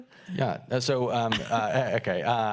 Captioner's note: laughing